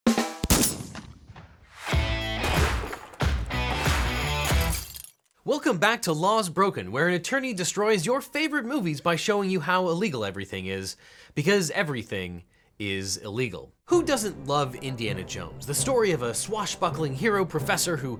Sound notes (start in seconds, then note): 0.1 gunshot; 0.2 drum music; 1.8 rock music; 4.5 glass breaks